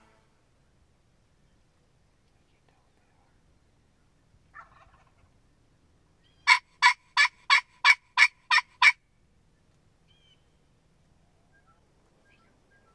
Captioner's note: turkey calls